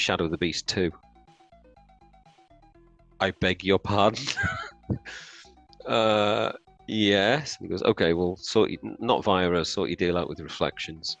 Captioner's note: laughs